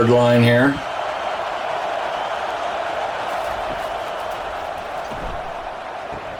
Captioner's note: cheering